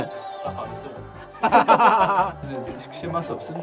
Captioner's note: laughter